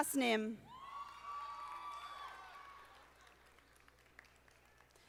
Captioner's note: audience applauding